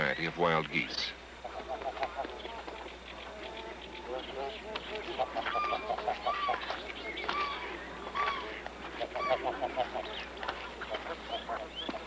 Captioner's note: geese Honking, Chirping, Water Sloshing